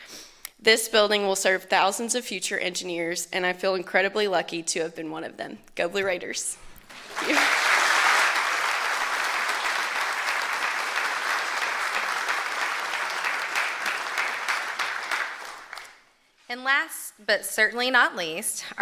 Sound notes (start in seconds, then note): 12.4 applause